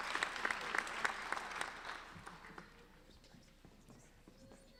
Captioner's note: applauding